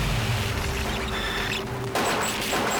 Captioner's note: gun fires